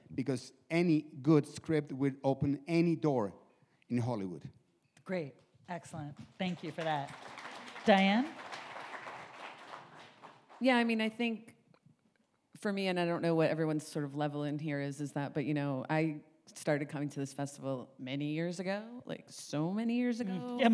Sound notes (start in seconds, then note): 6.4 audience applauds